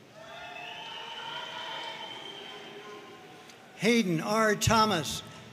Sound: audience cheering and applauding

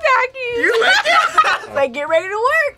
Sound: both laugh

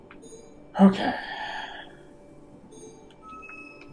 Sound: sighing

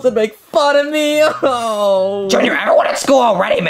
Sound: whimpers

